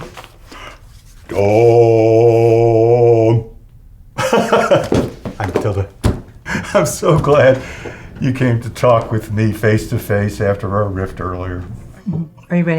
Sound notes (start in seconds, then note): 4.2 laughing